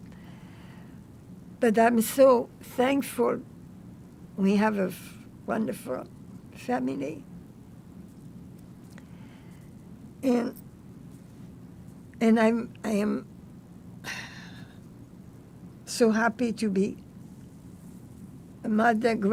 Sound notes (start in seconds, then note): 10.7 sighing